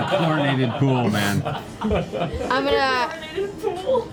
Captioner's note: laughs